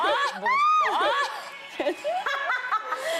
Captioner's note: screams; laughing